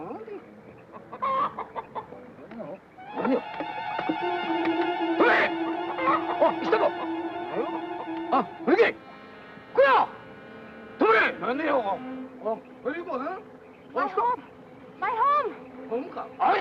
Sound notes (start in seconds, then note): 0.2 bird bawking; 3.0 tense suspenseful music; 5.5 men speaking in Japanese